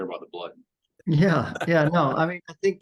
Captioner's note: chuckles